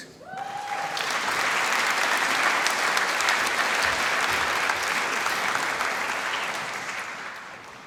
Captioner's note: applause